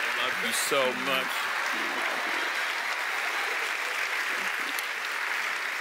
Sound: audience applauds

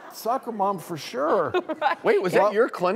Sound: laughs

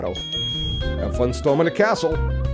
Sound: bell ringing

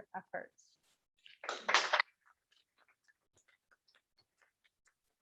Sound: applause

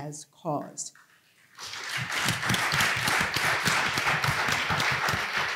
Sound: applause

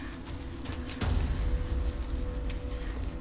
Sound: rustling of bushes

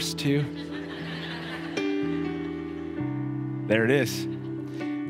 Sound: congregation laughs

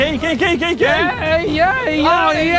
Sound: cheering

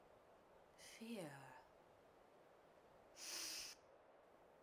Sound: GEALACH sniffs

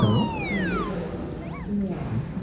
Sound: gulp

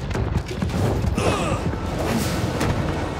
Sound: grunting

